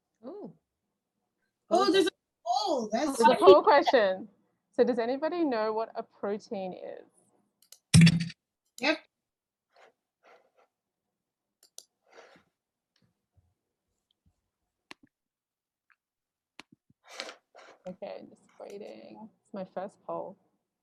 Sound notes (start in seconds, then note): 11.6 mouse clicking